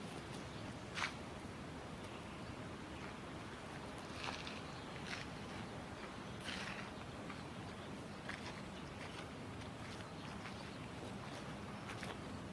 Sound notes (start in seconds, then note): none